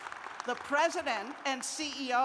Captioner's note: applause